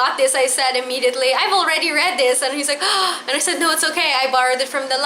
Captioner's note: gasp